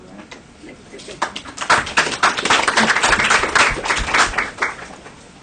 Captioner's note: applause